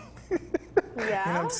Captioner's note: laughs